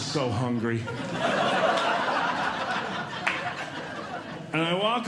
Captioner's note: audience Laughing